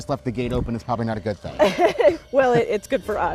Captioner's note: laughing